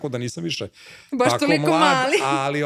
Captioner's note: laughs